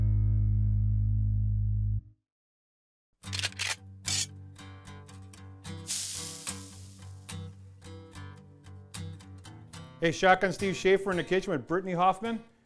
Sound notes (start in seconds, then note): 3.3 guncock; 4.2 sizzle